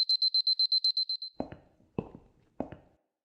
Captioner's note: footsteps